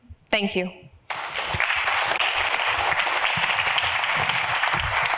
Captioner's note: audience applauds